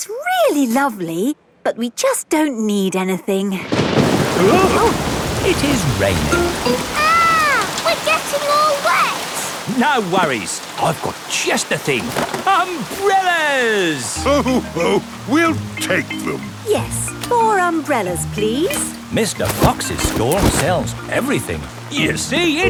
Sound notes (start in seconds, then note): 3.6 thunderclap; 4.3 parents gasp